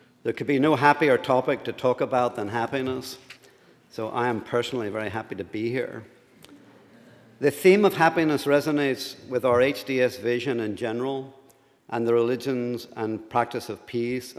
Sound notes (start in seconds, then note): 7.0 laughter